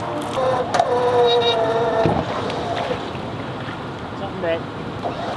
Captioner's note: machine operating